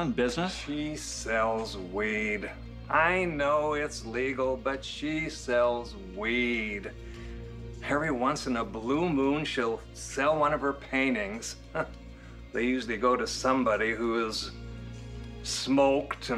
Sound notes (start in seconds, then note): 11.9 scoffs